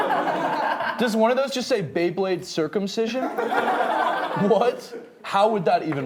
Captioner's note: laughing; laughing